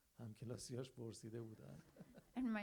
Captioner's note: audience laughs